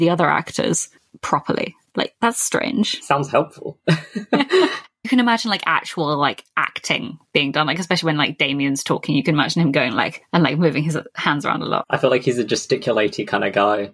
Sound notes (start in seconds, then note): 3.8 laughs